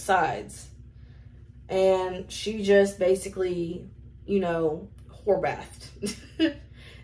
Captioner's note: laughs